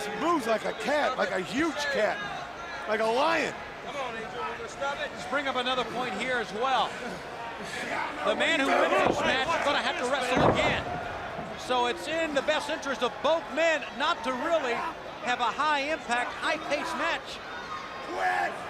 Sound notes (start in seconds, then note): 3.4 crowd chatter